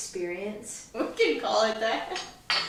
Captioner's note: laughing